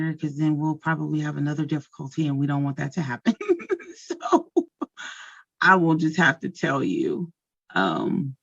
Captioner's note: chuckles